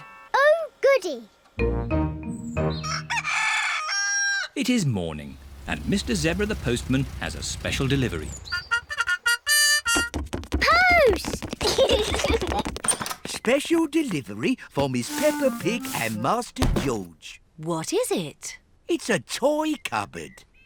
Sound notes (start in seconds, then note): 2.8 cockerel crows; 11.5 both giggle